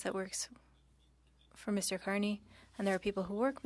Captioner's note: speaking French